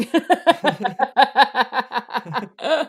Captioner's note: laughs